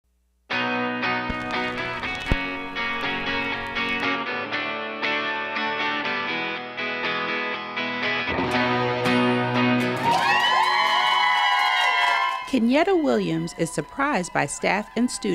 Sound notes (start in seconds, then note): 0.5 sounds of cheers and applause